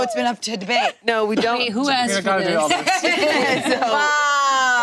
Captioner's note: group laughing